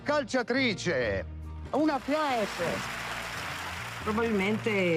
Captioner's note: applause